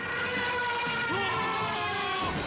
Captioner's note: intern Screaming; explosion Sounds